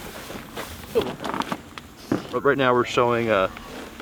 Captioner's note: boat squeaking